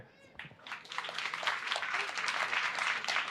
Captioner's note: applause